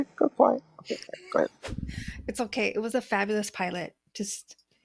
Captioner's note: makes zipper closing sound and voice gets quieter; laughs and then whooshing sound